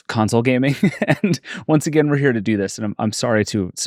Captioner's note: laughs